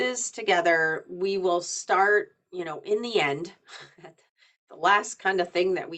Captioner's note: chuckles